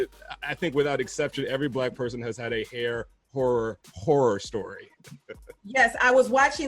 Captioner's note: laughs